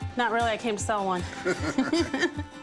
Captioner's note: both laugh